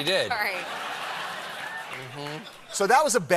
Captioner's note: laughter